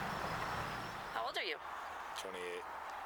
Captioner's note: birds chirping